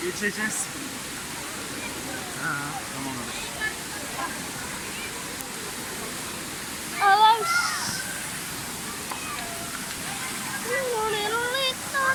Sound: children's voices, shouts

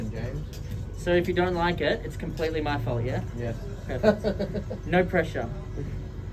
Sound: laughters

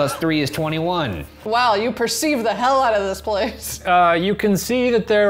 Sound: laughs

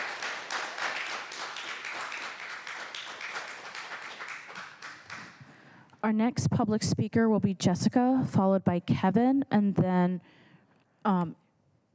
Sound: applause

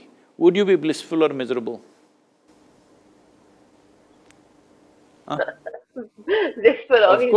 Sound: laughs

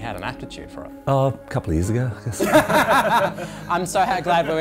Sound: both laugh

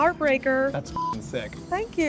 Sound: beep

